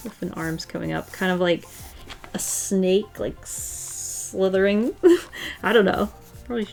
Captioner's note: laughs